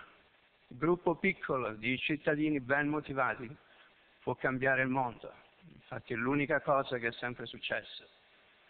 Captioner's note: Italian